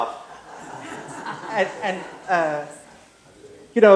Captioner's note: laughter